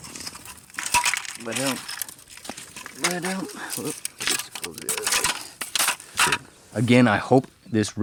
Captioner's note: plastic hitting gravel